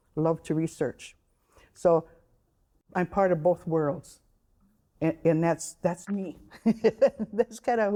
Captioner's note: laughing